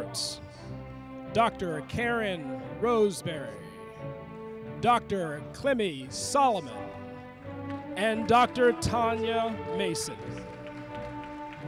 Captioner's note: applause